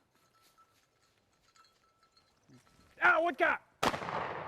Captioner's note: dog bells clanking; gun shot